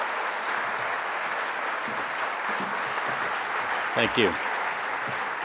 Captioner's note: audience applauding